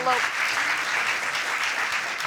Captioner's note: audience applauds